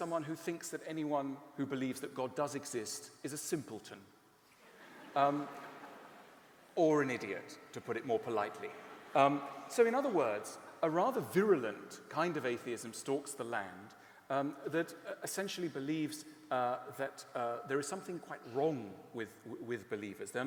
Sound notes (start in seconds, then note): 4.6 laughter